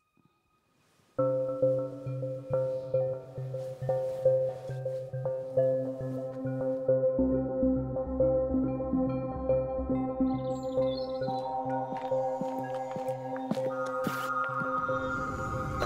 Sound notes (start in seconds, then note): 1.3 mellow ambient music; 12.4 birds chirping